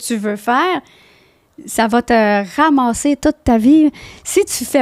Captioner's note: in french